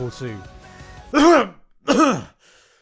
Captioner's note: coughs; coughs again